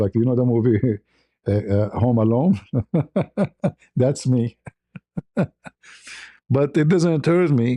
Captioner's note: ketawa